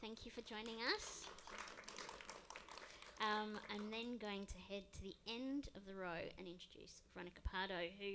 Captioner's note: applause